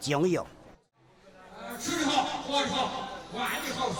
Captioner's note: speaking native language